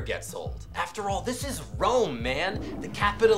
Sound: toilet flushes

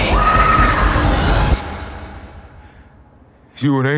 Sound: screams

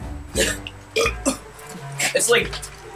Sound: Georges heaving

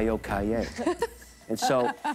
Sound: laughs

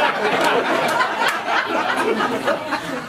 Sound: laughter

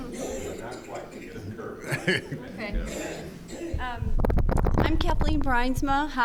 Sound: laughing; speaks off microphone

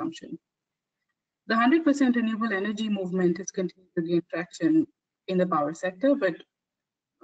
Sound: audio static

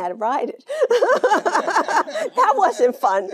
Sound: Jane laughing

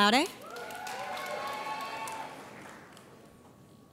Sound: audience cheers

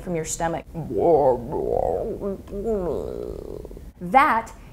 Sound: imitation of stomach gurgling

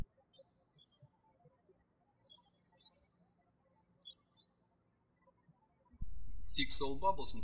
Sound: birds chirping

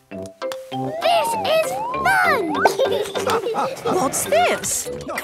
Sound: laughing

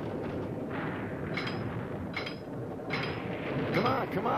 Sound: machinery clinks

